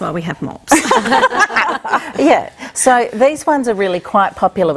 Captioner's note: laughter